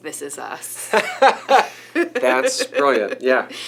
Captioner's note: laughing